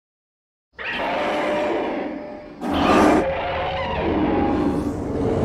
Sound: Fire Rodan roars

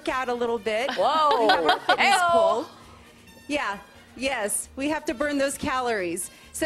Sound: laughter

